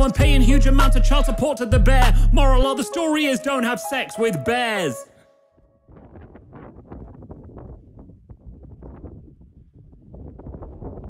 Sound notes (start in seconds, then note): 5.8 wind blowing